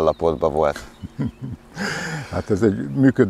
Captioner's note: chuckles